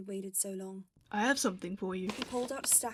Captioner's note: paper rustling